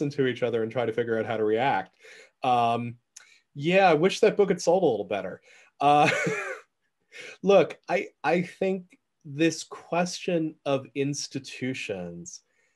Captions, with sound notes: to each other and try to figure out how to react. Yeah. I wish that book had sold a little better. (chuckle) Look, I think this question of institutions